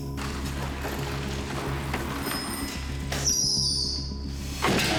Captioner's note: bike sounds